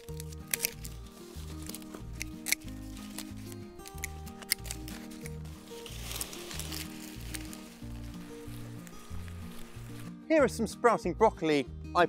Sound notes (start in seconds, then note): 0.2 uplifting music; 2.0 stems crack; 6.9 corn rustles